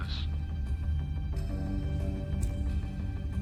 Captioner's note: discomforting rumble